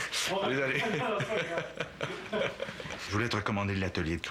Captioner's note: rires